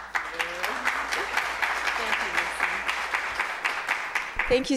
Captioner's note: audience applauding